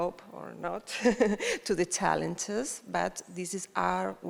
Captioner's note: chuckles